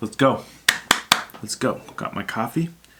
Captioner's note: claps